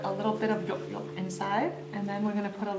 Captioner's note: speaking foreign language